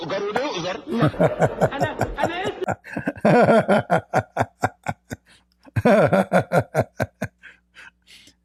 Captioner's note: Ketawa